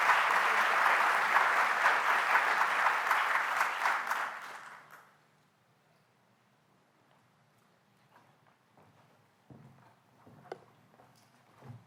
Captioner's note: applause